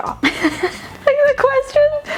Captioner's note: laughing